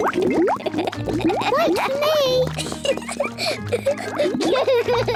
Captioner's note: laughs; both laugh